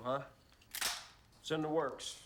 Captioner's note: guns clicking